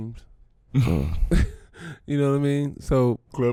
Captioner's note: laughing